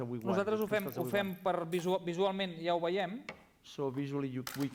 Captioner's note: non-english speech